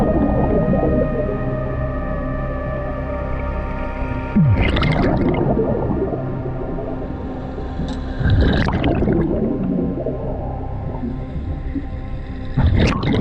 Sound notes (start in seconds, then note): 0.0 underwater sounds; 4.8 water bubbling; 8.5 water bubbling continues